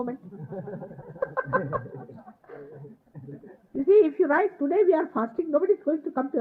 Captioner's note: Shir Mataji is laughing